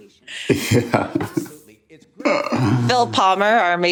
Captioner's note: chuckles